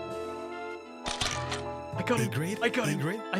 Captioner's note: camera shoots